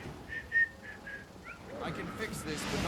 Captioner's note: whistles